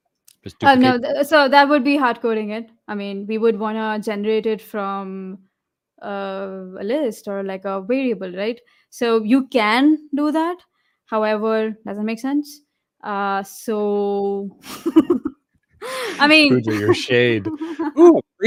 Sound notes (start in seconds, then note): 15.8 laughs